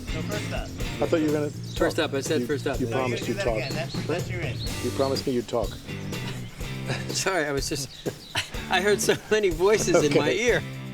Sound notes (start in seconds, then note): 5.7 laughing